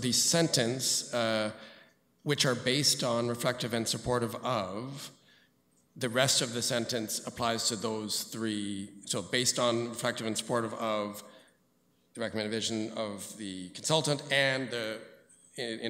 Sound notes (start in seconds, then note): none